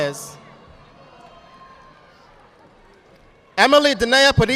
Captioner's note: audience applauding